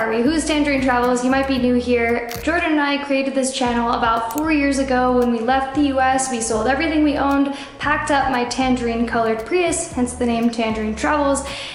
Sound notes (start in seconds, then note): none